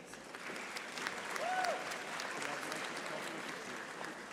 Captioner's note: audience applauding